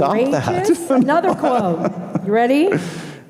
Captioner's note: laughing